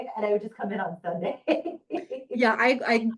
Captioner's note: laughing